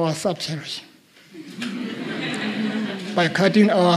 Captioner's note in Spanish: Risas